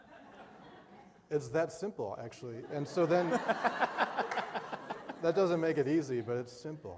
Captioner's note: laughter